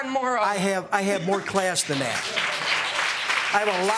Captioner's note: audience clapping